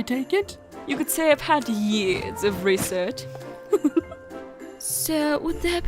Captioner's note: giggles